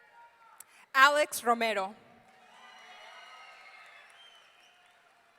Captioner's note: audience cheering; audience cheering